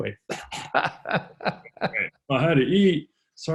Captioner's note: laughing; coughing